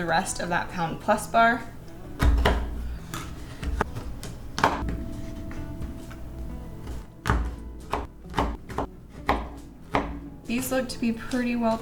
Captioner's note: chopping